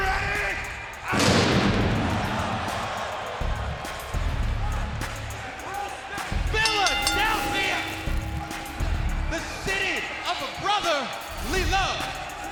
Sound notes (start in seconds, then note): 1.1 pyro booms; 2.7 music continues; 6.6 bell rings